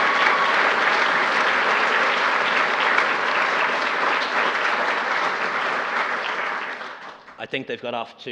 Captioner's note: applause